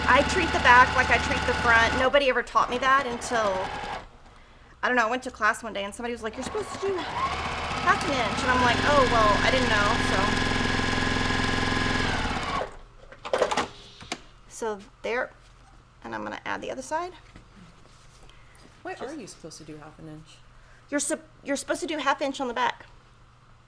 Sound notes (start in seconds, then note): 9.0 machine whirrs at full speed; 13.4 machine clangs